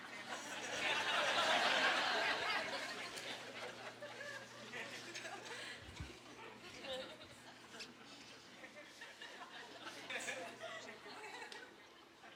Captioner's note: laughing